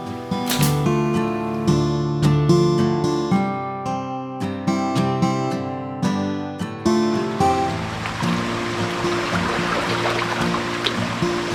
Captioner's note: power tool